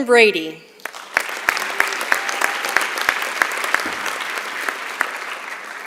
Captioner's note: applause